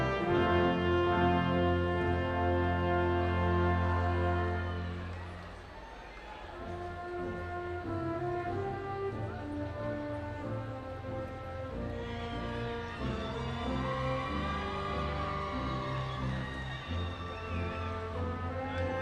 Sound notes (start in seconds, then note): 0.0 bright orchestral music continues; 5.0 audience cheering